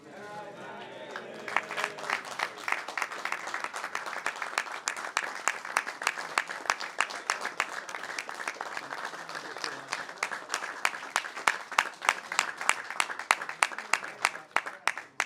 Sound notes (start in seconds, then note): 0.9 applause